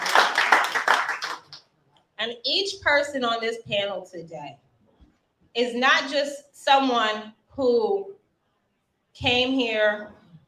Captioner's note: applause